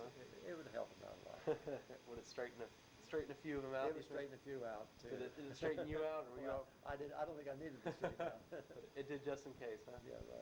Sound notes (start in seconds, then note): 1.3 chuckles; 5.3 laughs; 7.8 both laugh